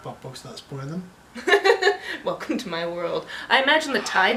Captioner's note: laughter